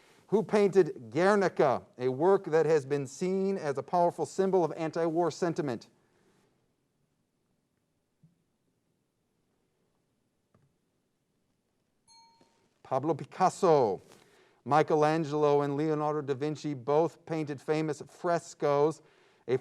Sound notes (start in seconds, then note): 12.0 ping